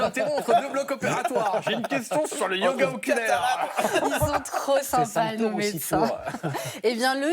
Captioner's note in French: rires